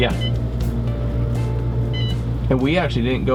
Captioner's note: machine beeping